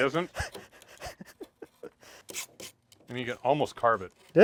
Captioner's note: chuckling